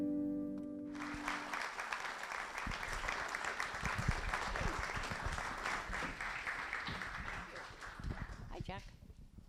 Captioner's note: applause